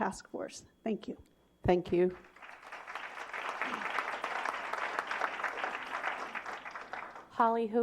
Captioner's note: applause